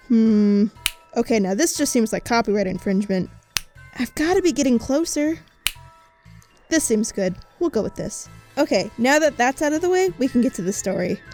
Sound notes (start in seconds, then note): 0.8 finger snapping; 3.5 finger snapping; 5.6 finger snapping